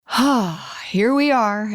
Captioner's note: sighs